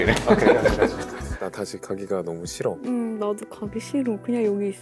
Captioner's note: both giggling